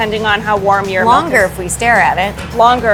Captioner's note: laughing